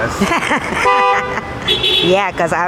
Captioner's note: laughs